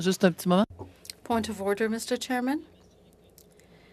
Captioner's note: speaking French